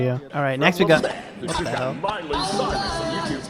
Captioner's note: audio glitching